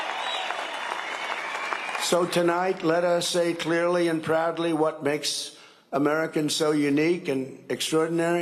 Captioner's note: cheering and applause